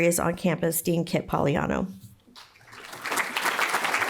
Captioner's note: applause